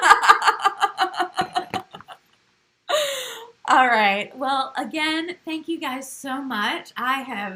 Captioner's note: laugh